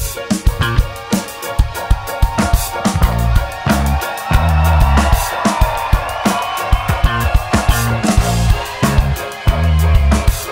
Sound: audience cheers

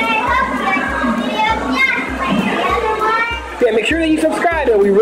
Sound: none

